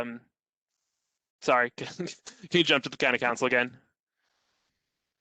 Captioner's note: laughter